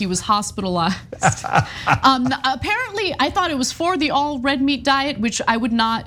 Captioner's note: laugh